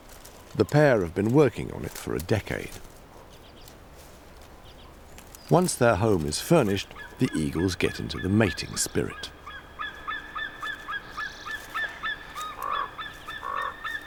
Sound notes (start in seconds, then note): 9.5 eagle caws